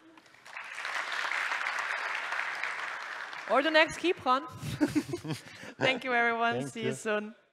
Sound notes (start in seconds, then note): 0.0 applause; 4.5 both chuckle